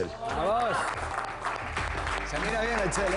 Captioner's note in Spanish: Aplausos